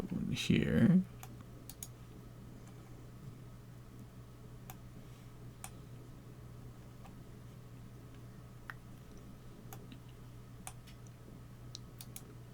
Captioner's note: mouse clicking